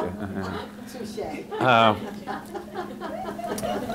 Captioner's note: audience laughing